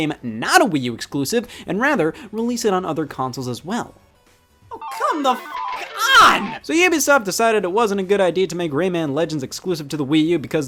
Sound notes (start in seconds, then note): 4.7 slot machines beep; 4.8 beep